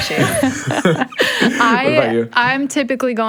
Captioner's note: all laugh